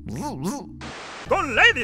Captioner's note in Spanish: Estática